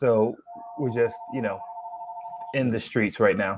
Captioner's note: ringing